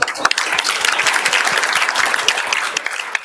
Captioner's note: applause